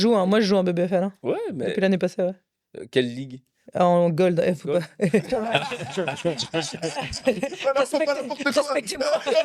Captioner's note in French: rires